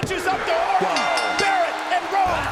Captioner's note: bell rings